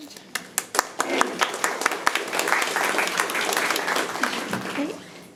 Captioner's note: audience applauding